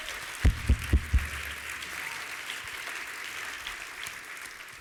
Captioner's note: applause